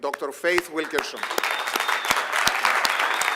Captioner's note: applause